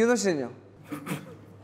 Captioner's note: pffft